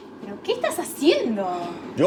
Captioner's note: none